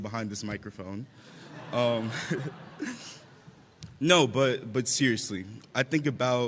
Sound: laughter

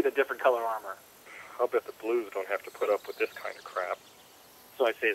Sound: sigh

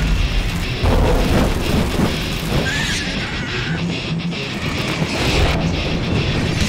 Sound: guitar music; Demo bat screeches

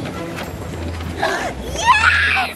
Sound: gasps

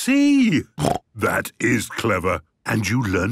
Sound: snort

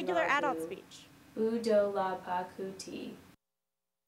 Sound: non-english speech

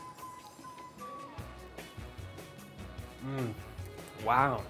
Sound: eating

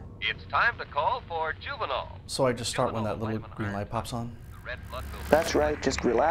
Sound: faint commercial plays

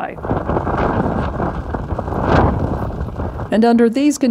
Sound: wind blowing

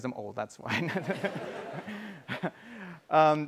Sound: laughter

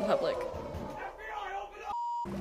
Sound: shouting in background; beep

